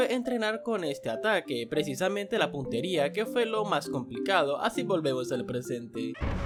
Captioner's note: explosion